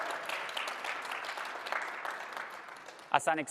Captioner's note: applause